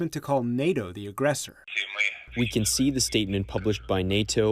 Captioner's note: through translator